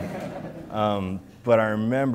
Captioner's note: audience laughs